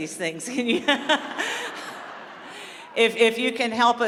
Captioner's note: laughter